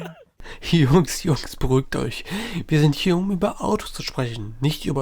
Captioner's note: laughs